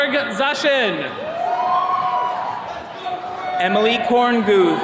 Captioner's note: attendees cheering